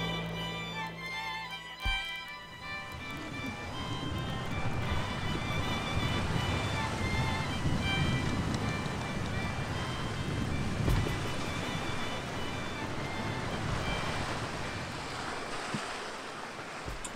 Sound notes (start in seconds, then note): 0.1 calm music; 3.3 waves splashing against boat